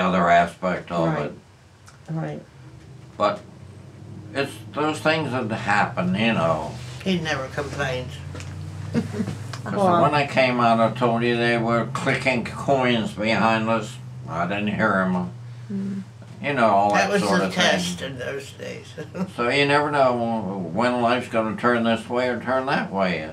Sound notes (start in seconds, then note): 8.9 laughs